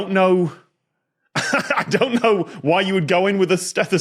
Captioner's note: laughs